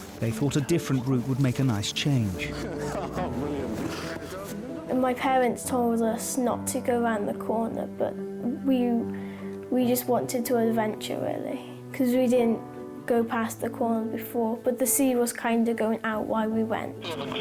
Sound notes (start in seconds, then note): 2.5 laughs